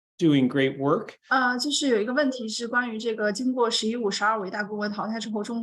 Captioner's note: speaking in Mandarin